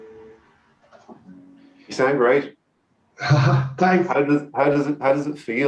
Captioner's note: laughs